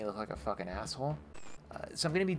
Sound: static

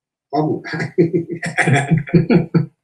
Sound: everyone laughs

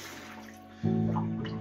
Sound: water shuts off

